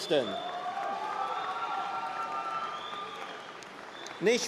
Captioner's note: cheering